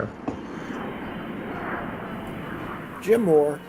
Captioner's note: aircraft roaring